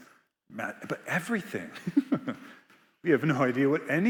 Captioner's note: laughs